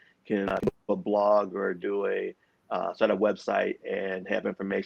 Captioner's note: audio distorts